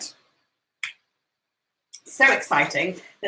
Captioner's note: hands clapping